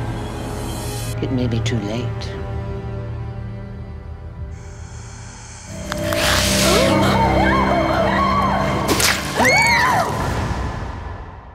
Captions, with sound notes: It may be too late. [ HISS ] [ ALL SCREAM ]